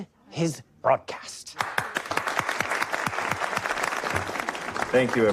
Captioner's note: applause